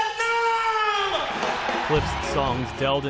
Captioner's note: cheering